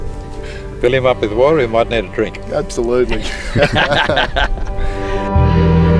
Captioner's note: laughs